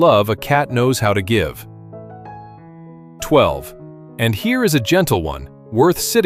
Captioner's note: thoughtful